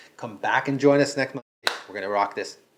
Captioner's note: smacking